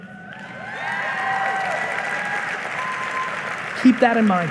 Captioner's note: audience applauding